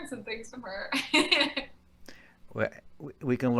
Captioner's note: laughing